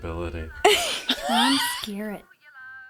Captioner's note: laughs